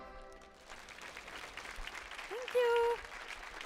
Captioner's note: audience applauding